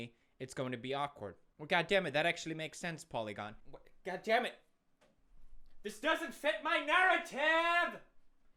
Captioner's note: none